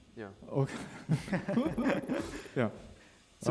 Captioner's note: laughs